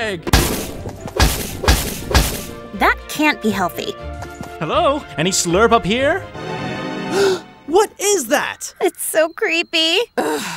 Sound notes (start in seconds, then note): 0.2 kegs clanking; 6.3 upbeat creepy music; 7.1 gasps; 10.1 Anya sighing